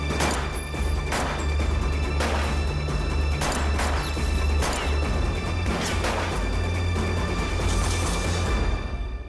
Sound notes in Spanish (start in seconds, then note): 2.0 Disparos